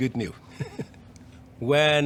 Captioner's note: laugh